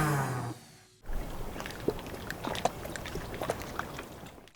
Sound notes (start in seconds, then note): 1.0 water splashing